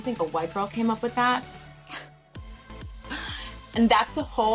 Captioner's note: chuckles